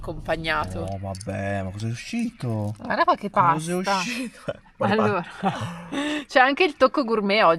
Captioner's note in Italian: risate